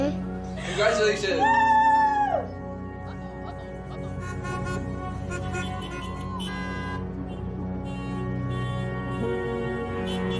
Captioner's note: car horns honking